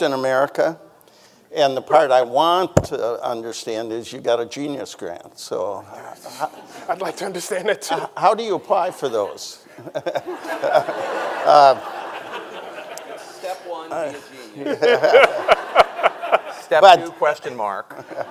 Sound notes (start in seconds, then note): 8.6 audience laughing; 9.9 laughs; 14.6 everyone laughing